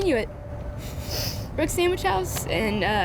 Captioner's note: sniffling